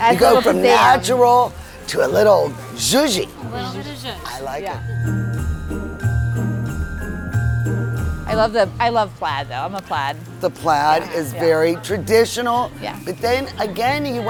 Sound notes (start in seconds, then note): 3.0 foreign language; 5.2 merry music